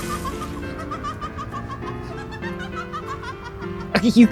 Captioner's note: manic laughter